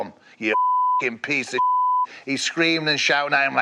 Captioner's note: beep